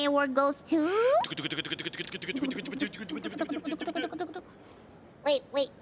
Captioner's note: Lyu and Ironmouse is mimicking drum roll sounds